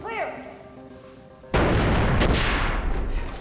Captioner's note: boom